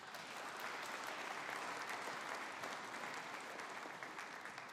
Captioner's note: audience applauding